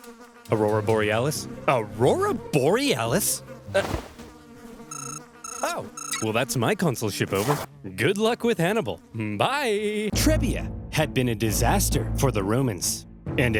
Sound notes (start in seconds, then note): 0.0 flies buzzing; 4.9 alarm beeps